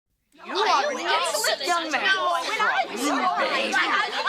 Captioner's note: everyone chattering